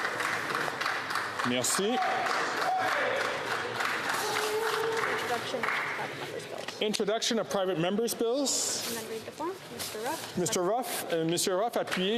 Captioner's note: applause